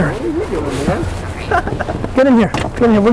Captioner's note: laughing